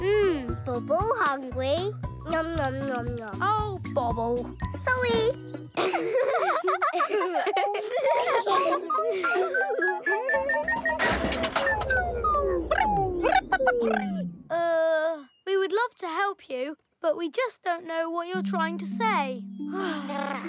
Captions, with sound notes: - Mmm, Bobble hungry, num, num, num, num. - Oh Bobble. - Sorry! (laughter) (beeping) (electronic chattering) - Uh, we would love to help you, but we just don't know what you're trying to say.